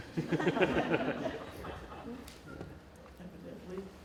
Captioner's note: laughing